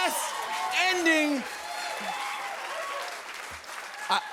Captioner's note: cheers and applause